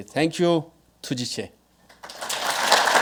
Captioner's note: speaking foreign language; audience clapping